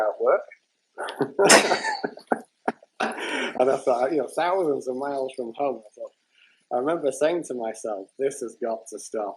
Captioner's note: laughter